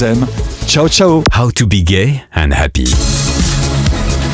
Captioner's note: voiceover